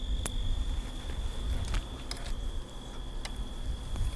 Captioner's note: crickets chirping